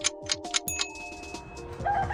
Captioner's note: clock ticking; ding; rooster